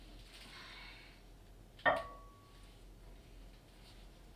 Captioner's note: knock